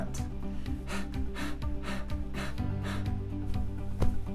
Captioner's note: panting